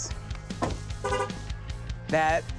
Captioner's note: horn honking